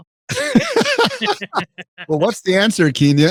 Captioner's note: both laughing